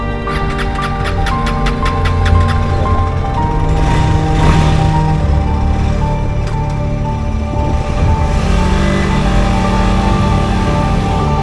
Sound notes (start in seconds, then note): 0.1 engine turning over; 2.6 engine starts, revving